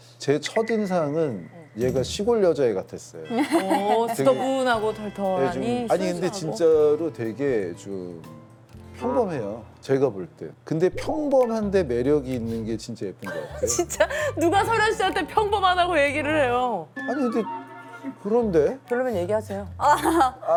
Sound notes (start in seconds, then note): 3.4 haha